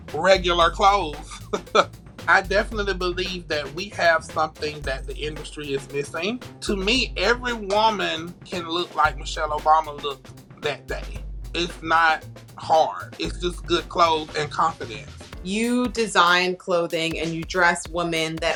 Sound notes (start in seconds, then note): 1.2 laughs